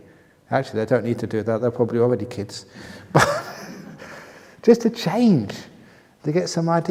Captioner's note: laughter